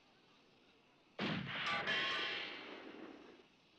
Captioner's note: gun fires